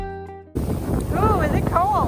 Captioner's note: waves roaring